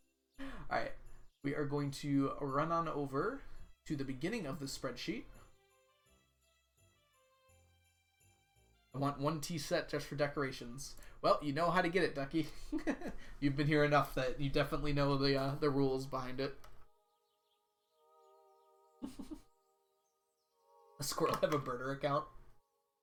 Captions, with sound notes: Alright. We are going to run on over to the beginning of the spreadsheet. "I want one Tea Set just for decoration." Well, you know how to get it, Ducky. (laughs) You've been here enough that you definitely know the rules behind it. (chuckles) "Squirrel has a burner account."